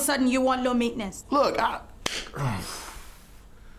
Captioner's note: Jonathan sighing